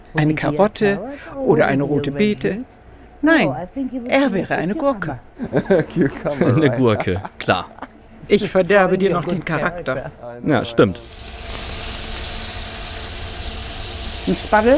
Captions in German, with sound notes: "Eine Karotte, oder eine rote Beete? Nein, er wäre eine Gurke." (lacht:) Eine Gurke, klar. Ich verderbe dir noch den Charakter. - Ja, stimmt. (Zischen) 'N Spatel.